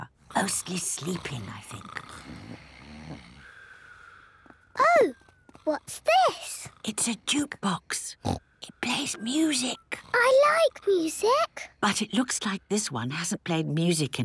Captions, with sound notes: Mostly sleeping, I think. - (snoring) - Ooh! What's this? - (whispering) It's a jukebox! Snort! It plays music. - I like music! - But it looks like this one hasn't played music